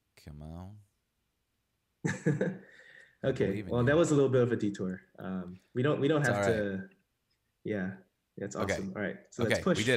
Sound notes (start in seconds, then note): 2.0 chuckles